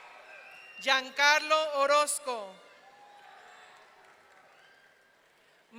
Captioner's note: audience cheering